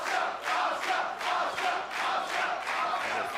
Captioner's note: fans chanting